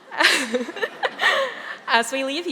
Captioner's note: laughing